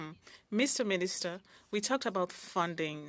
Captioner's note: speaking French